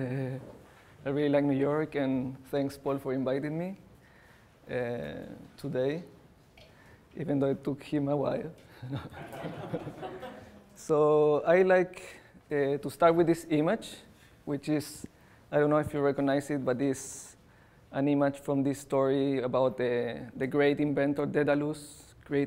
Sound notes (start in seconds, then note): 8.7 chuckles